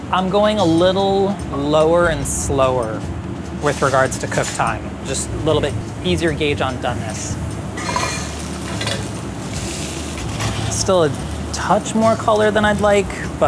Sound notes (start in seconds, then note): 7.6 butter sizzles